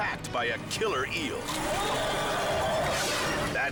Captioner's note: eel bites; air whooshes